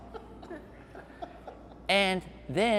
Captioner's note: laughing